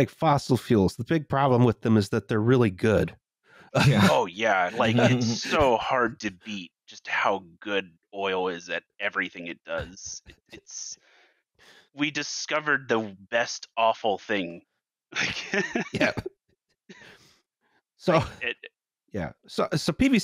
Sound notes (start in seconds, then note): 3.7 laughter